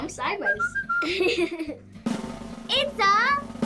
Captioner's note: laughs; drumroll